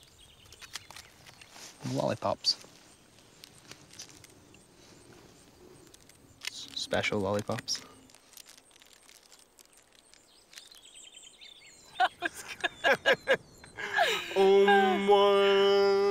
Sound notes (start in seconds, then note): 11.9 laughs